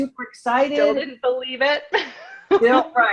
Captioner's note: laughs